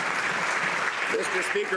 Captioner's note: some Applause